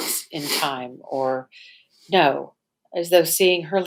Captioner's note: sniffs